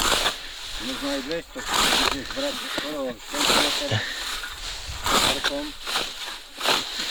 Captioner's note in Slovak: smrkanie